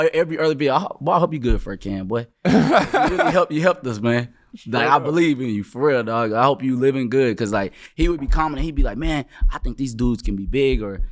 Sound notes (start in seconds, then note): 2.4 laughing